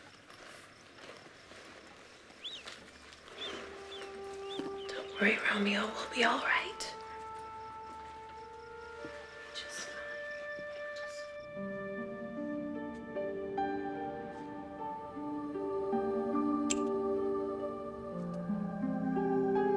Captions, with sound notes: (mouse squeaking) - Don't worry, Romeo, we'll be all right. Just fine. (gentle music)